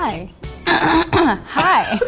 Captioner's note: clears throat